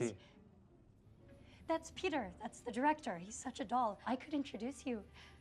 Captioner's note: none